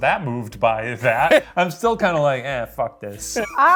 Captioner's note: chuckles; chuckling